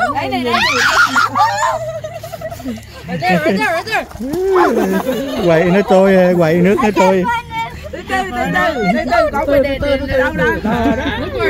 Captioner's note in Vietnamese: Tiếng cười